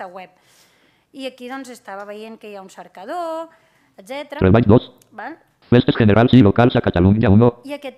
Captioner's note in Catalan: veu robòtica